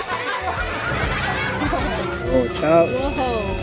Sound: dramatic sound effect

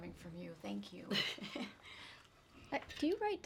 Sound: laughs

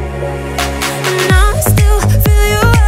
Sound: finger snap

